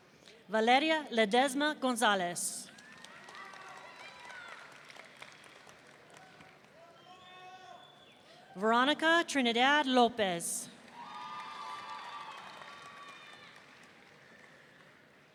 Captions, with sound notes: Valeria Ledezma-Gonzalez. (audience applauding) Veronica Trinidad Lopez. (audience cheering)